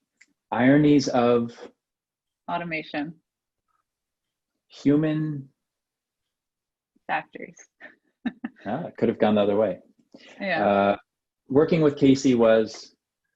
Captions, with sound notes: - Ironies of... - Automation. - Human... - Factors (chuckles). - Ah, could've gone the other way. Working with Casey was...